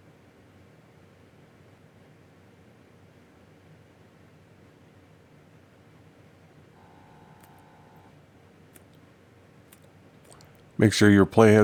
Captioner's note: silence